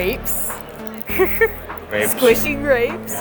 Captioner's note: laughs